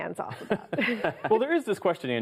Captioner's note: laughter